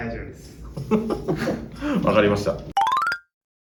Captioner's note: laugh